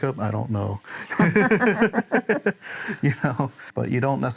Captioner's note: laughter